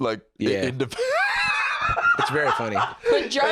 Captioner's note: laughs